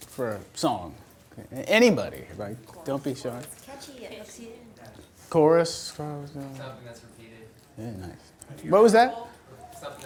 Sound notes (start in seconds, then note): 4.1 voiceover; 4.9 mumbles off mic; 6.4 voiceover